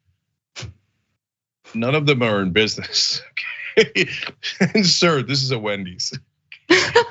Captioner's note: laugh